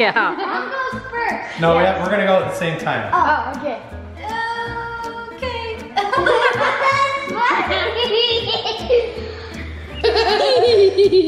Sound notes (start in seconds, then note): 5.9 laughing